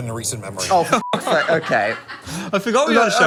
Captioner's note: beep